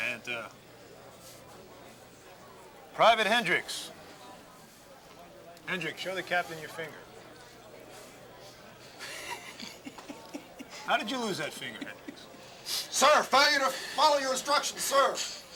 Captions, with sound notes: Banta. Private Hendricks. Hendricks, show the captain your finger. (laughing) How did you lose that finger, Hendricks? - Sir, failure to follow your instructions, sir.